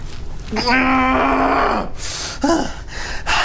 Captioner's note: Miles groans; Miles pants